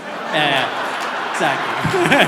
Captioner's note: audience laughter